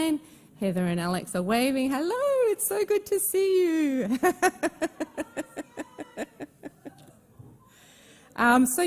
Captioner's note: laughs